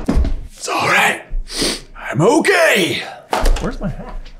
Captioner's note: sniffs